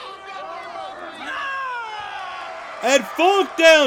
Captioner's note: Jerry groans